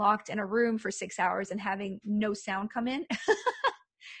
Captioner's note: laughs